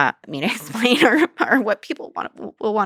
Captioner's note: laughs